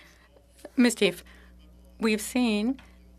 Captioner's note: speaking French